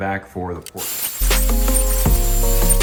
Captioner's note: water running